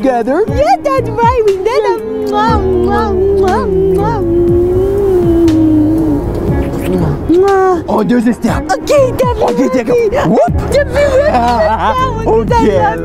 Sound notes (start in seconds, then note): 1.9 kissing noise; 8.5 mumbling and laughing